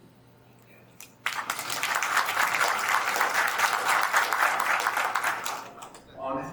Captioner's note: attendees applauds